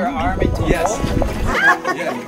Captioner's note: screams, laugher